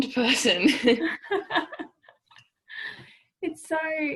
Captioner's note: laughing